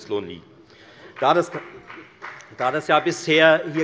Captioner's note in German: Beifall bei der FDP